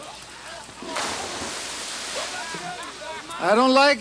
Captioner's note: water splashes